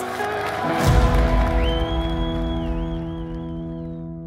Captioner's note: crowd cheering and whistling